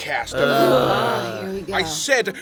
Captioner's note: cast groaning